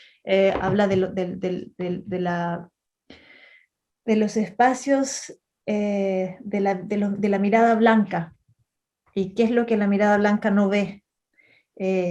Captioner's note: speaking Spanish